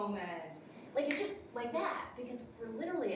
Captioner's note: finger snaps